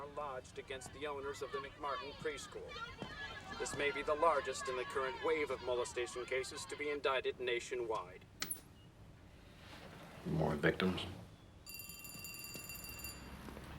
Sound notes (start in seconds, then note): 8.0 television turns off; 11.6 telephone rings